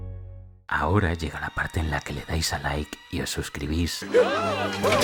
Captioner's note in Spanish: susurrando